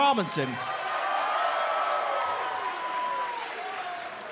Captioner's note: cheers & applause